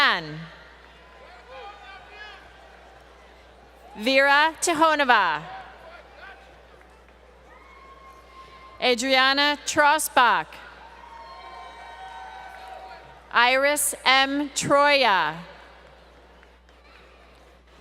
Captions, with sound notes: [ Crowd Cheering ] Vera Tikhonova. Adriana Trossbach. Iris M. Troya.